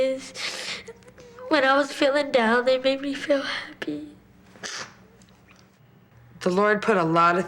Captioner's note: sniffs